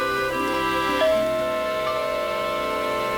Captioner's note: doorbell rings